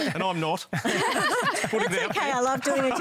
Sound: laughter

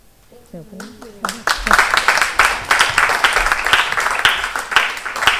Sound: applause

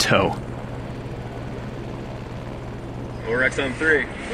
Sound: helicopter whirring

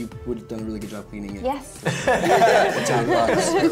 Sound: others laugh

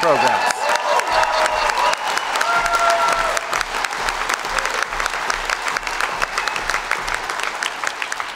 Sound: cheers & Applause

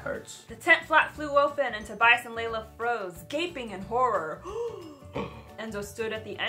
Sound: gasping

